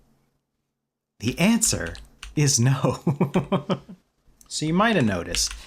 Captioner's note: laughter